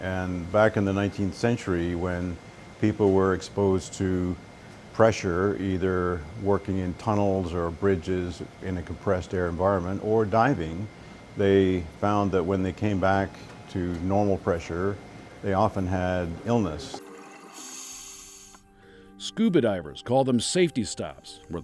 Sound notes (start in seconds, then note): 17.0 oxygen hissing